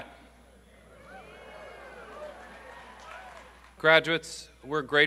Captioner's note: audience cheering and applauding